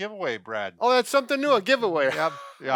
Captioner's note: laughs